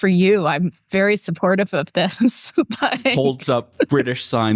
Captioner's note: laughter